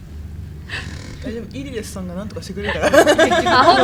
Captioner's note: laugh